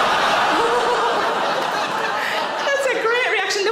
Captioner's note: audience laughs